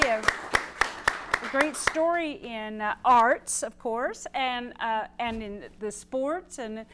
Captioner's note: applause